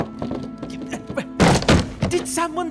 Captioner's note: rapidly descending stairs